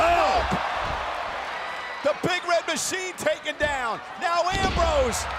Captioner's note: applause